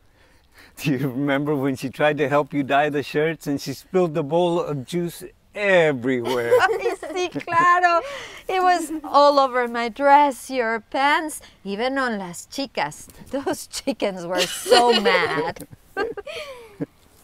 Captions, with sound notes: - Do you remember when she tried to help you dye the shirts, and she spilled the bowl of juice everywhere. (everyone laughing) (Spanish) - It was all over my dress, your pants, even on las chikas, those chikas were so mad. (Ana laughing)